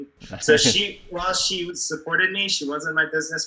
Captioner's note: laughs